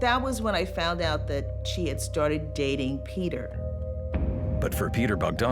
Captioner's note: laugh